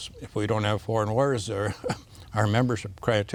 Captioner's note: laughs